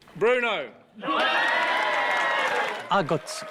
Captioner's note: crowd cheering